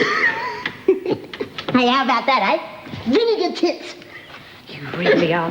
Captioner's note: laughs